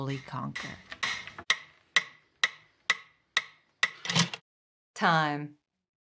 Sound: metronome clicking

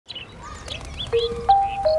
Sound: bird noises

